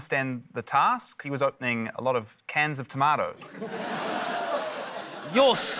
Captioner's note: laughter